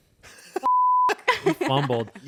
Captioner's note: beep